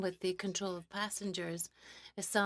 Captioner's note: speaking French